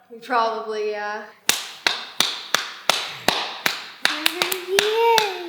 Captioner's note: claps